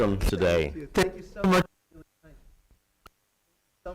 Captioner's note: audio Cuts Out